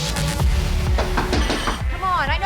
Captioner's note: knocking